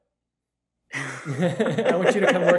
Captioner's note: laughing